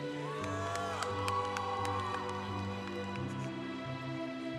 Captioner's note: congregation cheering